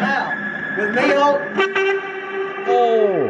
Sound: high pitched noise; loud beeping noises

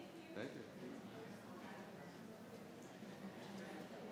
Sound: background chatter

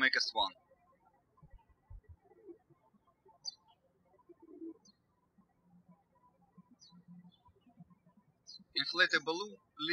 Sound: birds chirping

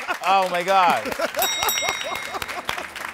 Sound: bell rings

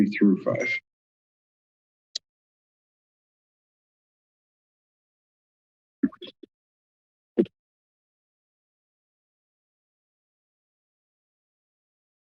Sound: pause

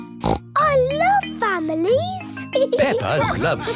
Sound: snorts

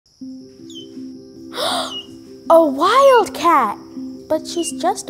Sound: gasping

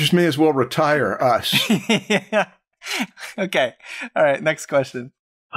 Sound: laughter

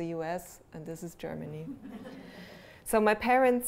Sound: laughter

